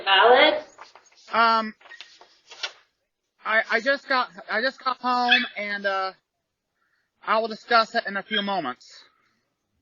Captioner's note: Ella barks and howls